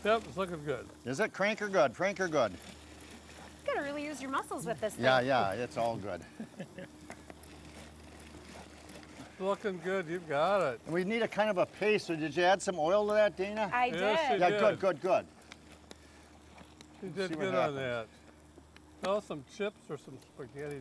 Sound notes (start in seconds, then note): 6.2 laughs; 7.1 handle cranking